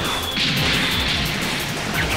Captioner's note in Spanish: Sonidos de batalla